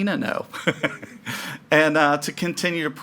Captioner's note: laughing